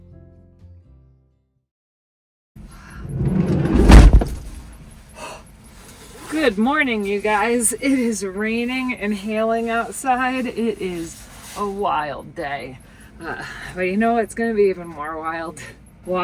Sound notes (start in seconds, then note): 3.0 door slams